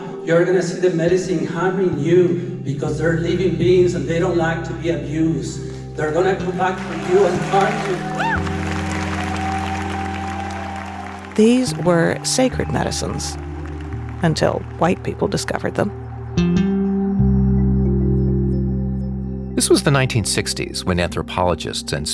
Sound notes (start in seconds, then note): 8.3 audience applauding; 8.3 audience cheering